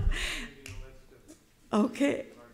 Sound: everybody laughing; attendee 3 faintly speaking

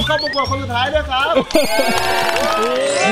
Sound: applauding; cheering

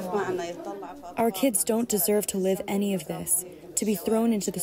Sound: through translator

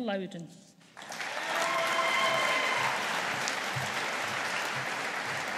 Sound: audience applauding

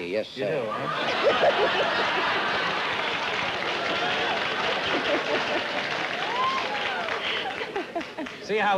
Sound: laughter

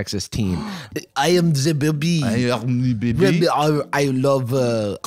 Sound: in bad French accents

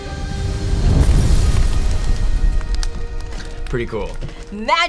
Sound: flame crackling

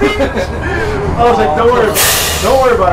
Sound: laughs

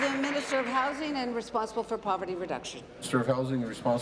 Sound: applause

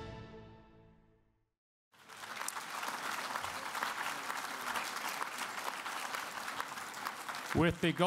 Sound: applause

